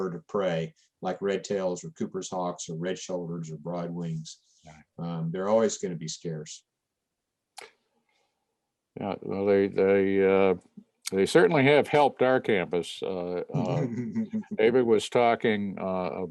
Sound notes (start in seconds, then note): 13.6 laughter